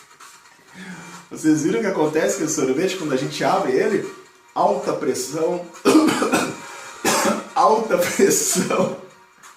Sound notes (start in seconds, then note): 5.8 cough!; 8.0 laugh